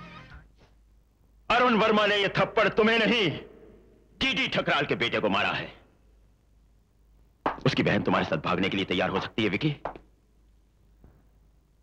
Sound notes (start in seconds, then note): none